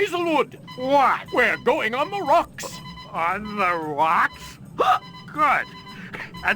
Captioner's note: hiccups